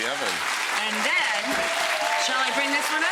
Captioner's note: audience clapping